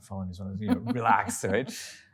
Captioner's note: laughing